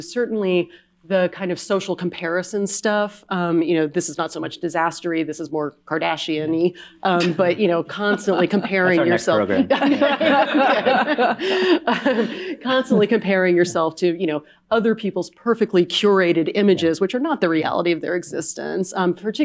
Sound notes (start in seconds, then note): 7.1 woman chuckling; 11.9 all laugh